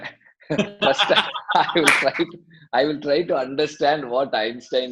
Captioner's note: laughs